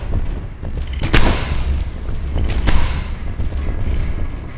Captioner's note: gun firing